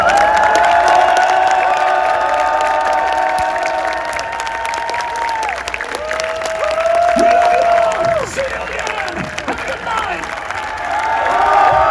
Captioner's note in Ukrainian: оплески